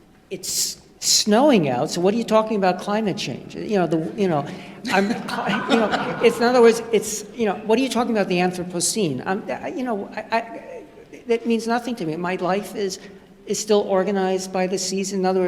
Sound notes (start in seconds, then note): 4.9 laughter